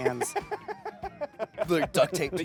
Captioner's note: laughing